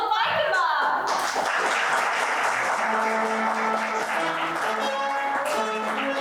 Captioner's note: applause